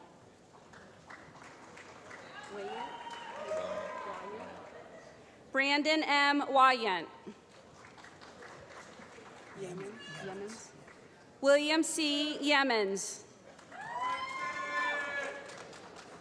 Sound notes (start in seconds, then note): 0.6 applause; 7.4 applause; 13.5 applause